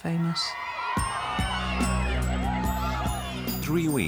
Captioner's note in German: leute rufen durcheinander